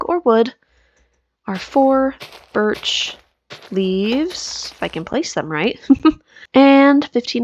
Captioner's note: laughs